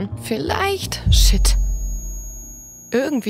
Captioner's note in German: Hohes Surren